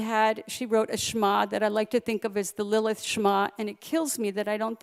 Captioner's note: Hebrew; Hebrew